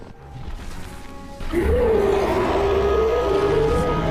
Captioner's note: roaring